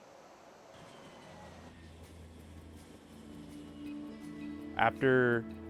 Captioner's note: airplane landing